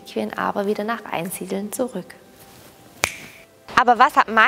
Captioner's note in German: schnipp